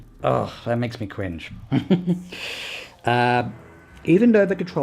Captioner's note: chuckles